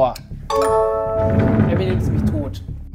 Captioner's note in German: Klingeln